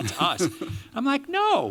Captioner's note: laughter